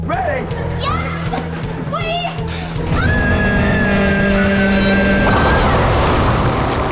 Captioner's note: screaming